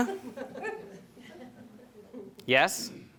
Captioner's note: audience chuckling